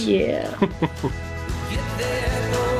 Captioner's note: chuckling